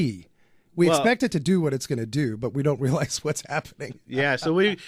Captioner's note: laughs